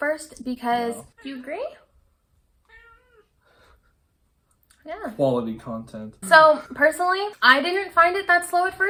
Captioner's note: meow